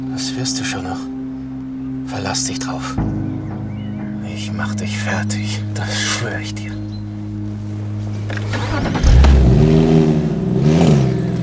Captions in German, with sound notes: Das wirst du schon noch, verlass dich drauf. Ich mach dich fertig, das schwör ich dir. (Motor startet und brummt.)